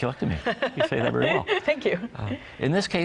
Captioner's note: laughs